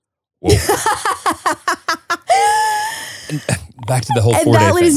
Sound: laughing

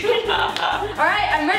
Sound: laughing

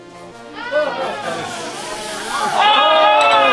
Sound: champagne fizzing; screaming

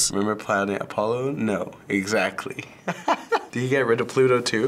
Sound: laughs

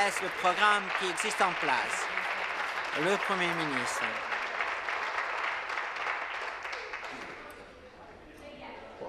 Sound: some Applause

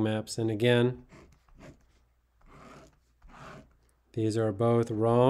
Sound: pen scraping

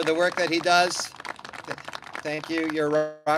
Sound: clapping

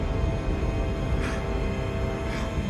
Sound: gasps; grunts

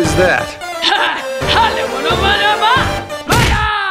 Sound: ringmaster scarr happy noises

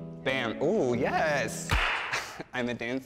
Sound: clap

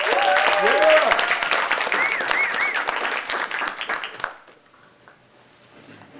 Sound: audience applauding and cheering

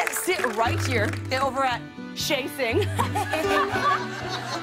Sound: laughter

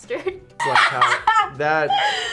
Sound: laughs

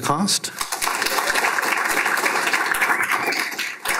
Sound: applause

